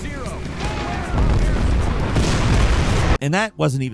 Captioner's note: explosions booming